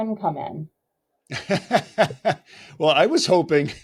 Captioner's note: both laughing